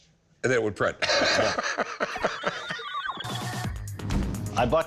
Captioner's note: chuckling